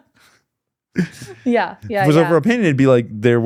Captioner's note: laughing